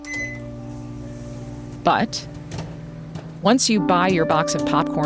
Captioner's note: microwave beeping